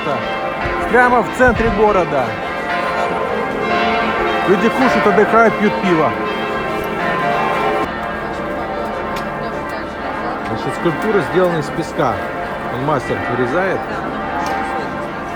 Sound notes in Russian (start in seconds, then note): 6.2 звон колоколов